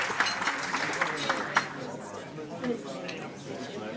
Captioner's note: chattering